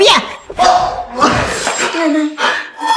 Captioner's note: scoffs